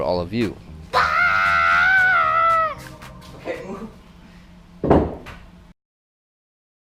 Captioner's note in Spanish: chica está juguetonamente gritando